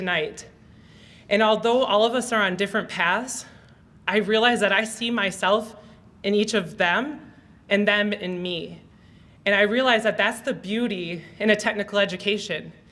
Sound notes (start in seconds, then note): none